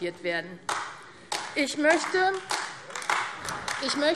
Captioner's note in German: Beifall AfD